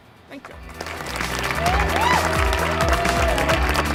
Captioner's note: crowd cheering and applauding; upbeat music